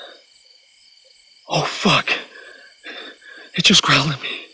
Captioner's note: guttural growling